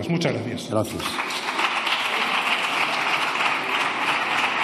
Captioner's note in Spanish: Aplausos